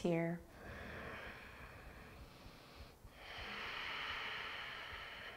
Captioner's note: deep breathing